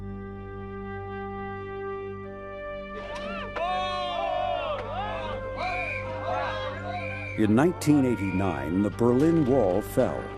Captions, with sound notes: (patriotic music) (people shouting) In 1989, the Berlin wall fell.